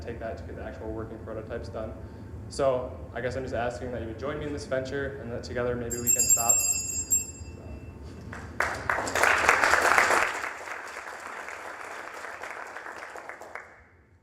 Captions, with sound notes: AND THEN, TAKE THAT TO THE GET THE ACTUAL WORKING PROTOTYPES DONE. SO, I GUESS I'M JUST ASKING THAT YOU JOIN ME IN THIS VENTURE AND THAT TOGETHER, MAYBE WE CAN STOP-- (bell dinging) (applause)